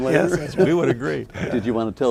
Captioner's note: laughing